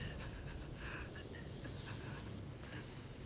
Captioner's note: groaning